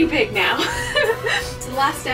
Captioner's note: laughs